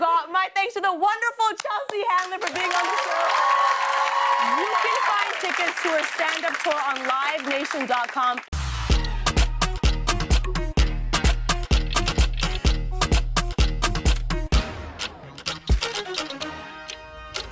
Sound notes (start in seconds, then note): 2.2 cheers and applause